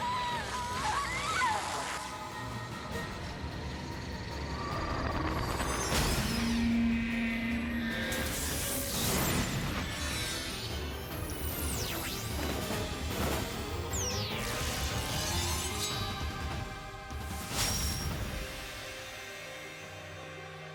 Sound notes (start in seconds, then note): 0.2 intense music and zaps; 5.6 explosions